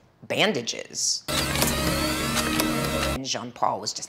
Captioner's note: machine whirring loudly